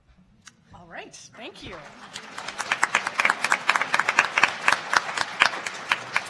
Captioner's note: applauding